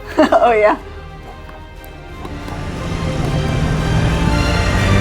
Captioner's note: heart pounding sounds